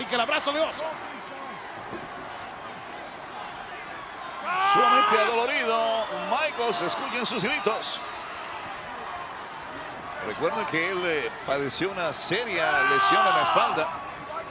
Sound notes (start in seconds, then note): 0.8 applause